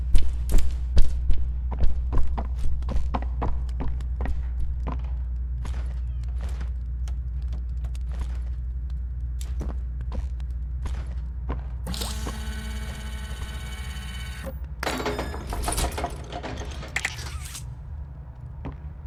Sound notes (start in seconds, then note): 10.8 footsteps